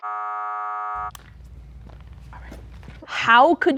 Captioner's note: buzzer buzzing